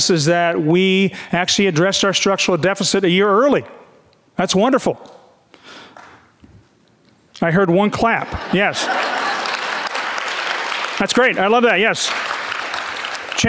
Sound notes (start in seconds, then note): 5.9 audience member claps; 8.1 audience laughing; 8.5 audience clapping